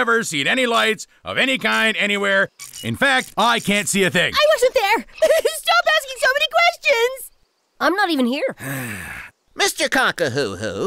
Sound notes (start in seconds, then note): 5.0 sobbing; 8.6 sigh